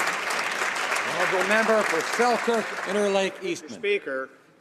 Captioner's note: applause